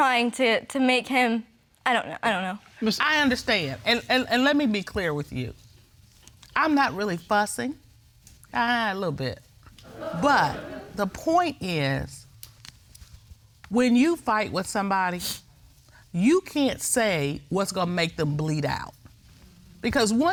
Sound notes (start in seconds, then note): 2.3 stammering; 9.8 audience laughing